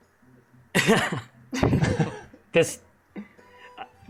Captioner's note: laughs